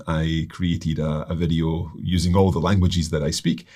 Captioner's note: none